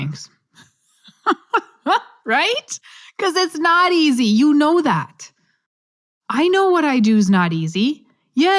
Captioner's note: laugh